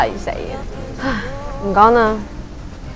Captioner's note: styled Sigh